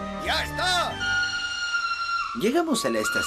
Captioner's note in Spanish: silbato